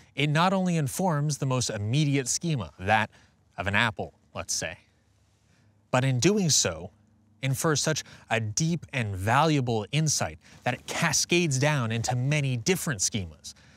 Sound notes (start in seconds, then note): none